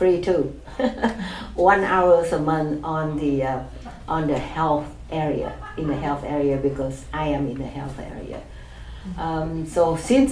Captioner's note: laughs